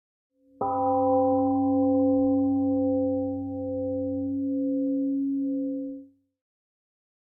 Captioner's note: temple gong rings and fades